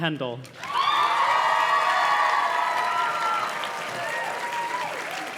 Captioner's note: audience cheers and claps